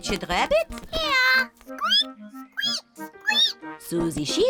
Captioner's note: both squeak; bleats